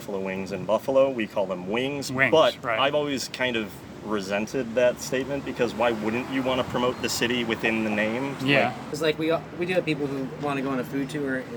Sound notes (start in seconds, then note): none